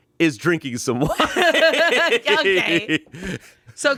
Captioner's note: everyone laughs